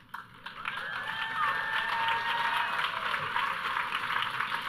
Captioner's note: audience cheering